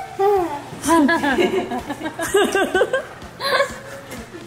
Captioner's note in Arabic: الكل يضحك